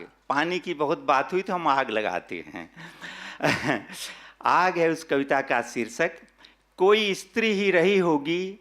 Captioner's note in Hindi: हंसी